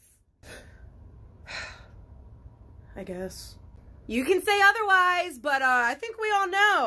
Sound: sigh

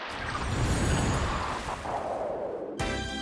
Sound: wind and chimes

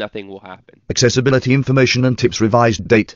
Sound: computerized Voice

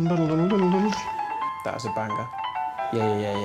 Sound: music changes; Dara hums tune

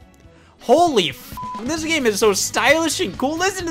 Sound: beep

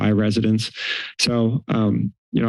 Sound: inhales

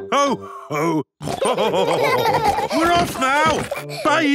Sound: laughter; honking

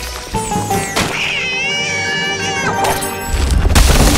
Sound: screaming

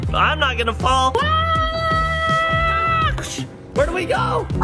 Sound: screaming

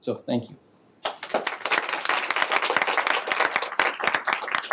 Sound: applause

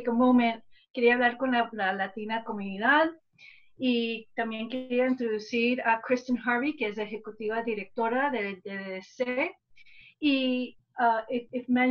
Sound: speaking spanish

